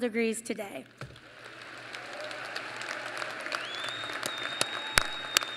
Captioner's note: applause